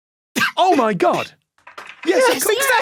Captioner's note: bewildered cough